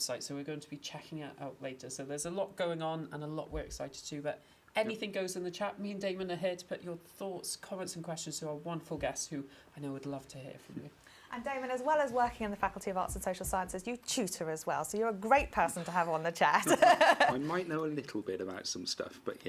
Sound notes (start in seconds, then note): 16.6 laugh